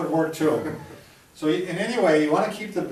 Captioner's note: chuckles